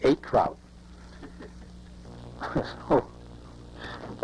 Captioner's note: chuckles